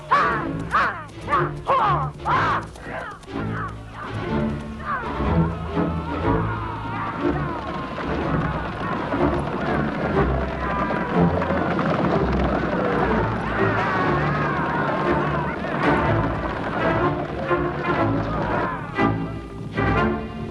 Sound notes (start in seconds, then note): 0.2 vocalizing; 3.5 dramatic orchestral music; 7.9 horse hooves pounding